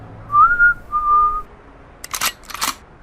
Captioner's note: whistling